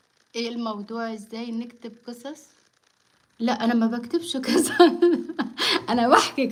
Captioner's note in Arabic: ضحك